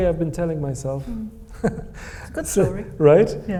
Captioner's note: Hisham chuckles